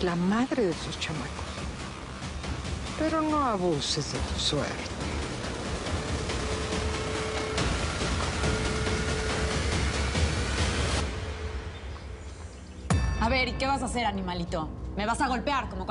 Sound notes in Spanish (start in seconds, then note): none